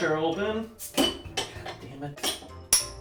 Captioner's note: bottle top clinks